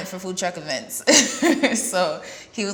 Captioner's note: laughs